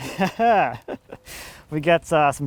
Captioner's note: laughing